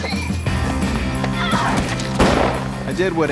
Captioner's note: coughing; yelling; gunshot sound effect